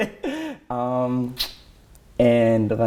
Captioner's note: both laugh